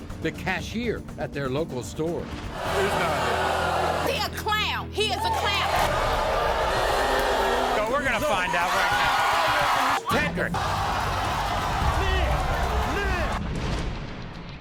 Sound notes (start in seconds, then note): 2.5 audience booing; 5.7 audience booing; 8.9 audience cheering; 11.2 cheering